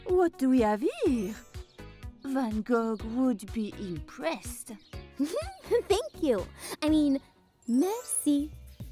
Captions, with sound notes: What do we have here? Van Gogh would be impressed. (giggling) - Thank you. I mean, merci.